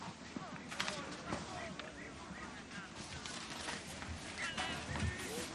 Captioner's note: soldiers chattering faintly